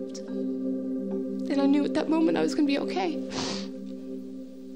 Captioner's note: sniffles